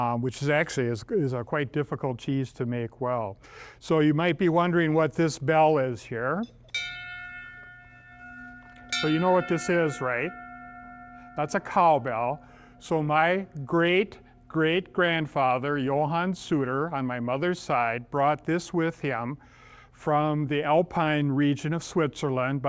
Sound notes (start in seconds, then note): 6.7 bell rings